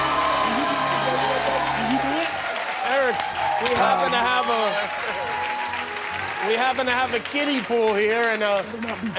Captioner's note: cheers and applause